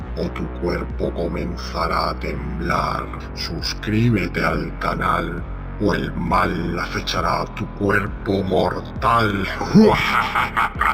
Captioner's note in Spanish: risas